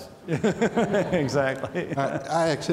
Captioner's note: laughs